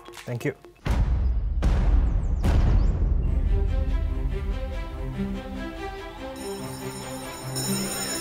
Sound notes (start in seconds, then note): 6.3 school bell ringing